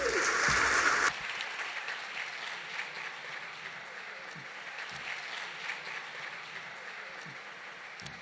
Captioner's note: applause